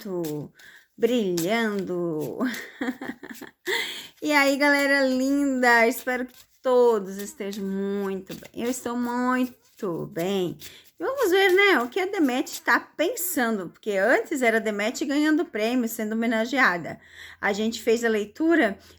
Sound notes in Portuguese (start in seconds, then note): 2.5 risadas